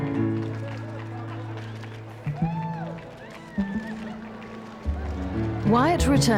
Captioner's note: crowds cheering and applauding